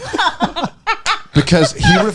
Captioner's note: laughing